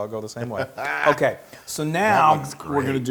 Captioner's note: laugh